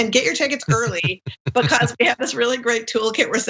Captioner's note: laugh